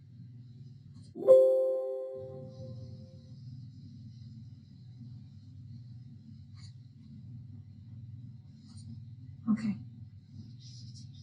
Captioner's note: computer chiming